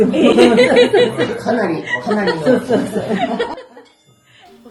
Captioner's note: laughs